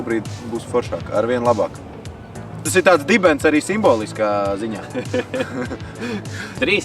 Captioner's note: laughs